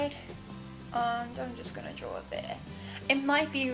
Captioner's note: mumbles